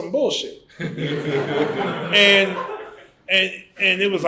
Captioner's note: laughter